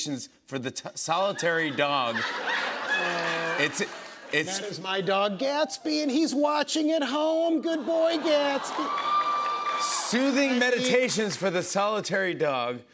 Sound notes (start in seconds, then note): 1.3 laughter; 7.9 audience "Awws"